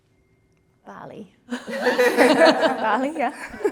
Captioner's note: all laughing